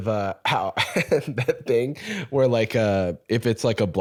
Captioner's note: laughs